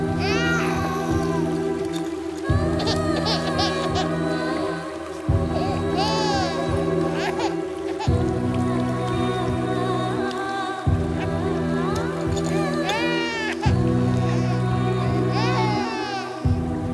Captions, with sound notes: (Rain sound) Where did you go? Didn’t I ask you to stay here? She asked you to come urgently.